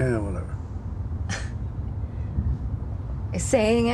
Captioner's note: chuckles